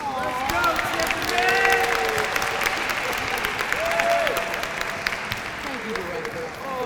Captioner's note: applause